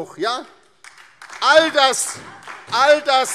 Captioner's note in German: Beifall DIE LINKE und SPD